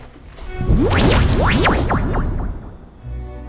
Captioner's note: sound of trans dimensional teleportation